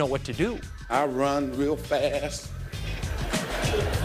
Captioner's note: laughter